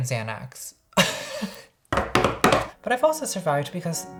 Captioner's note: laughs; banging